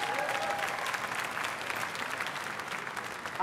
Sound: applause

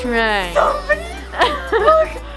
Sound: gasps

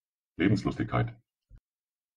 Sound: fast Pronunciation

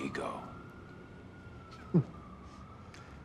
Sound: chuckles

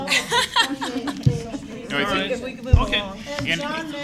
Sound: laughter

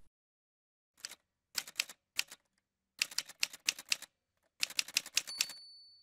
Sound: typewriter sounds

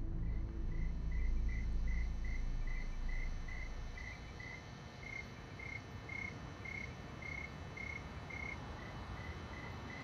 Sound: crickets chirping

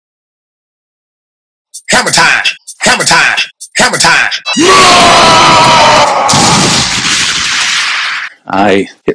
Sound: angry anime sound

